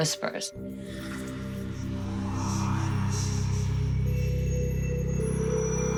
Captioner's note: whispering